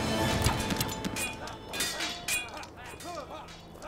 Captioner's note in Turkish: Bağrışmalar ve kılıç sesleri